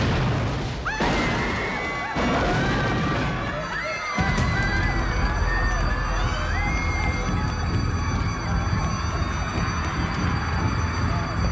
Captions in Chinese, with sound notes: [尖叫聲] [尖叫聲 汽車防盜警號] 走啊… 走啊, 過來這邊, 跟着走